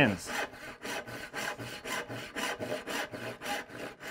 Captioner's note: saw zips